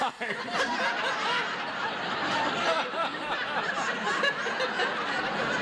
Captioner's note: audience laughs